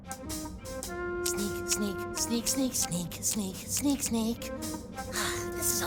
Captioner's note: whispering musically; sighs, quietly